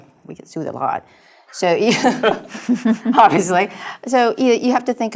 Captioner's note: laugh